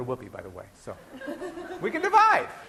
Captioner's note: laughing